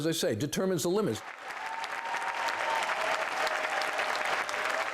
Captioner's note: audience applauds